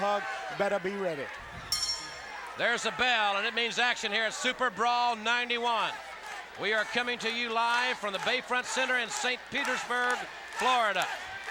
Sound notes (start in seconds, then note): 1.6 bell ringing